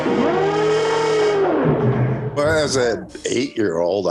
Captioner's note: monster growling